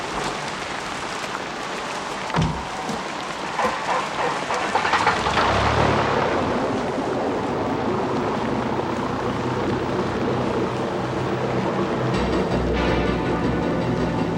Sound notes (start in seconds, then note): 3.6 engine whirring; 11.9 dramatic music